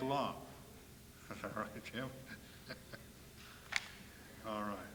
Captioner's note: chuckles